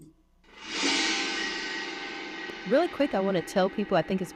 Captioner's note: screen whooshing